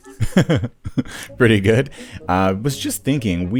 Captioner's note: laughs